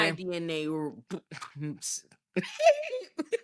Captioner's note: laughing